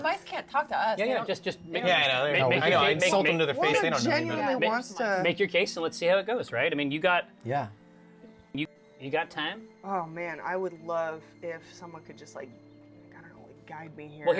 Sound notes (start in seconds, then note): none